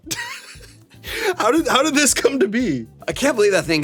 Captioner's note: laughs